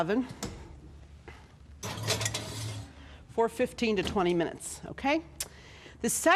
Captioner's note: metal clanging